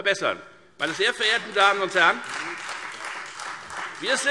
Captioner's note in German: Beifall Freie Demokraten